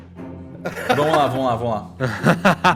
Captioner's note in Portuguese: risos